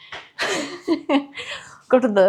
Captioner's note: laughing